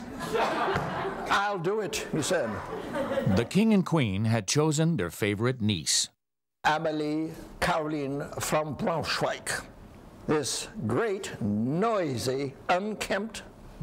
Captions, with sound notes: (audience laughs) "I'll do it" he said. - [Voiceover] The king and queen had chosen their favorite niece. - Emily Caroline from Brunswick. This great, noisy, unkempt girl